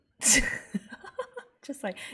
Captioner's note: laughs